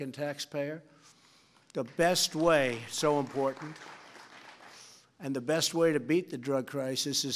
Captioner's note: applause